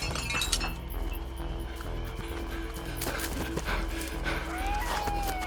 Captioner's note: cup clinking; person breathing